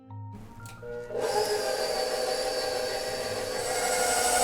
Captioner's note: whirring